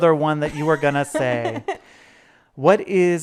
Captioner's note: laughing